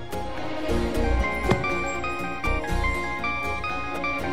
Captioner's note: phone ringing